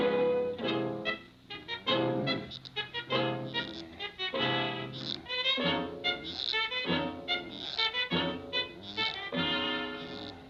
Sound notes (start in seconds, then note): 3.4 vizier grumbling; 3.4 walking stick creaking